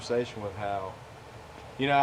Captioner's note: none